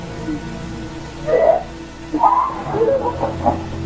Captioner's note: woman screaming